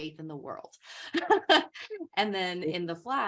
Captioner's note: chuckles